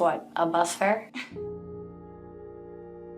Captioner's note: woman chuckles